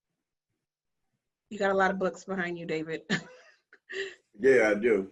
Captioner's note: laughs